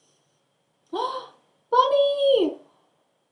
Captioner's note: gasp